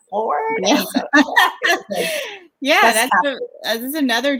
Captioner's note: laughs